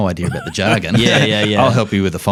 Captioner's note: laughs